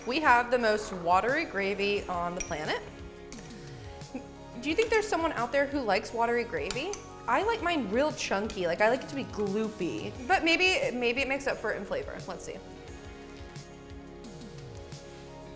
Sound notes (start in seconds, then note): none